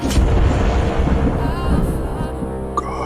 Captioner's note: thunder rumbling